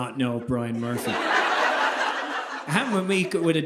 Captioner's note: audience laughing